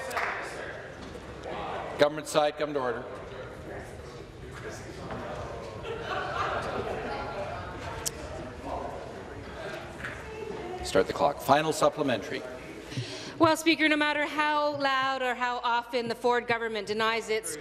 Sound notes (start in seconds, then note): 1.6 applause